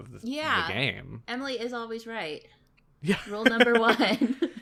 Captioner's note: laughs